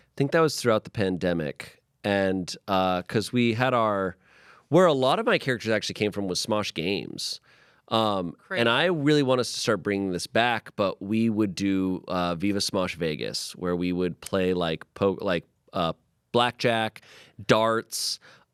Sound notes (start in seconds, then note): none